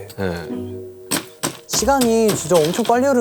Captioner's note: pound, pound, pound